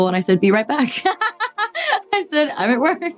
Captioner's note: Dove laughing